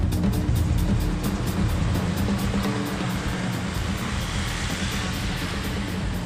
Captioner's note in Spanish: sonido de motor de vehículo